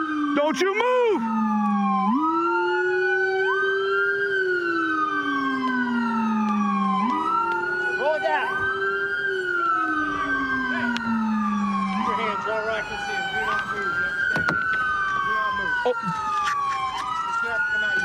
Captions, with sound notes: DoDon'n't you u move!! [sirens] Roll back. Put yourt your hands where I can see them. Do n not move. Do you underou underanand ? Do not move. He's going toing to have to come out your side.